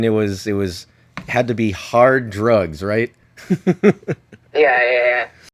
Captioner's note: laughs